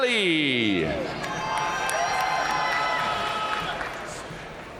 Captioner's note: audience cheering and applauding